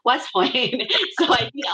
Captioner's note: laughs